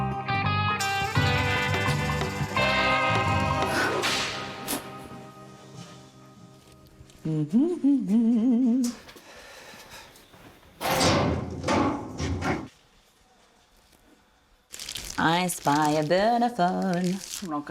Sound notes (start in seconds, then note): 0.2 intriguing music; 7.2 hums curiously